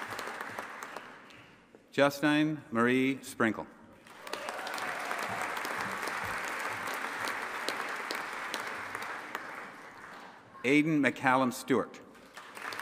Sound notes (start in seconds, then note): 4.1 audience applauding and cheering; 12.2 audience applauding